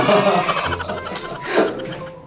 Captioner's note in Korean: 웃음소리